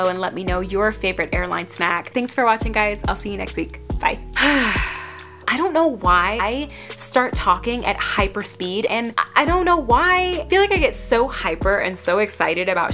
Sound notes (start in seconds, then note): 4.3 exhales